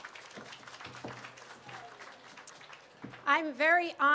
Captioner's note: applause